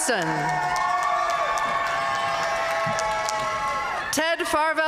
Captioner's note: audience cheering and applauding